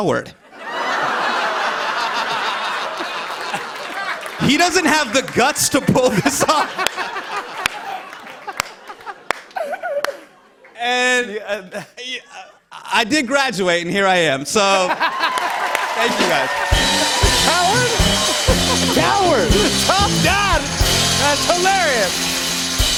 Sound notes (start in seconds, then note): 0.4 laughter; 14.8 laughter; 15.0 cheers and applause